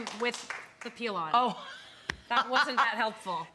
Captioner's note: laughing